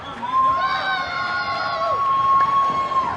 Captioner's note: people woo